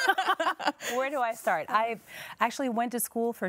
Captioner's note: laughs